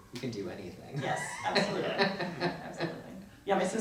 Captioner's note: laughs